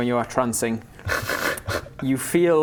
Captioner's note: snickers